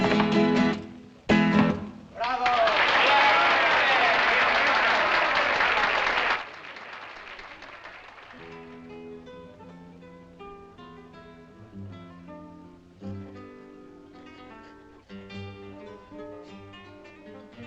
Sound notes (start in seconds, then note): 2.1 cheering; 6.6 distant Applause; 8.3 guitar Resumes